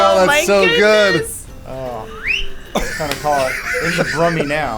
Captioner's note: whistling